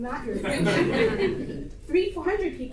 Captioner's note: audience laughter